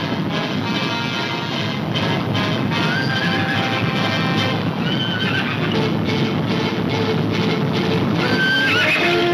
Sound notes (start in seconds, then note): 0.8 horses neighing